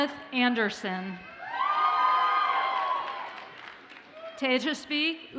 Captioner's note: audience cheers and applauds